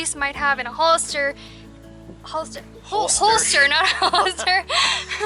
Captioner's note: laughter